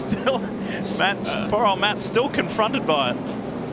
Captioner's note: laughter